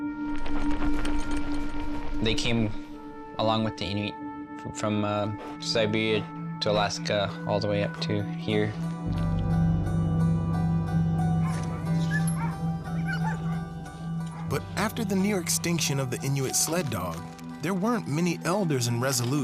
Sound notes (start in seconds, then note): 0.1 soft music; 11.4 dogs barking